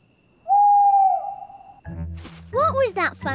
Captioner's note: owl hoots